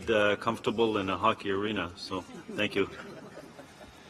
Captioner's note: laughter